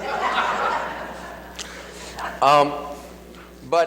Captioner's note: laughs